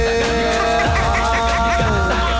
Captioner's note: Laughs